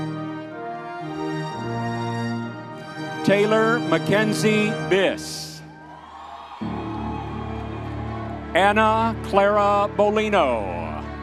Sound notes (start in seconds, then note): 5.0 audience members cheering